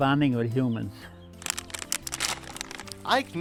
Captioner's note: bag crinkling